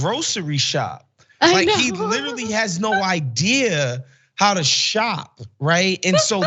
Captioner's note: laugh